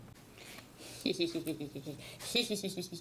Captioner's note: silly laughter